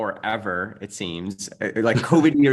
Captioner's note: chuckles